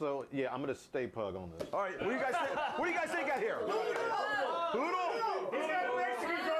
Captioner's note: audience shouts answers